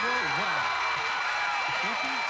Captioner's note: cheers and applause